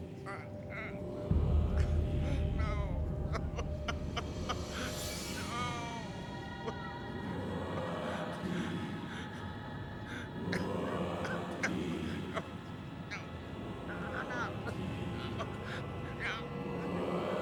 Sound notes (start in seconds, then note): 4.2 crying; 6.5 chanting continues